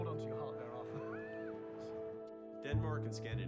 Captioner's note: chuckles